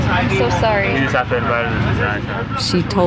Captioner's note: in Creole